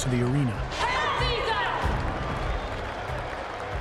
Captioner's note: non-english speech